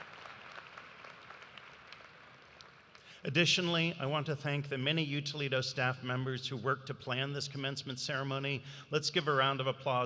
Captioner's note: cheers and applause